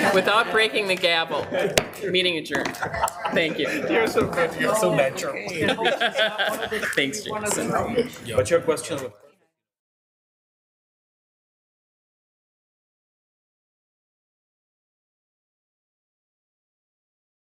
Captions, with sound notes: without breaking the gavel. (gavel thuds) Meeting adjourned.